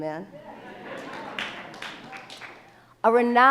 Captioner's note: applauds